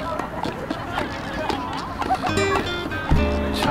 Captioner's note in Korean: 웃음참는중